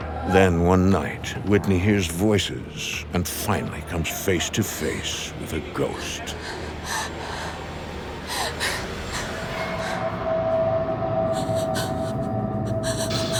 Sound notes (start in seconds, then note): 6.2 Whitney whimpering; 10.6 eerie music